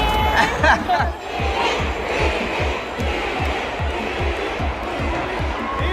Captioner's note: crowd cheering: “